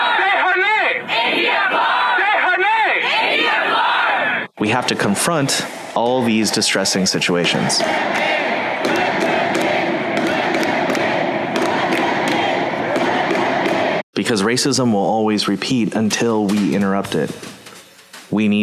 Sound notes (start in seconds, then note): 1.1 protesters chanting; 8.0 chanting